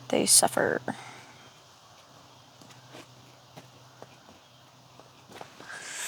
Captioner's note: footsteps